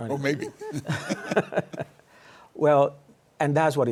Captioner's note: laughter